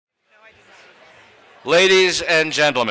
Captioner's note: crowd chatter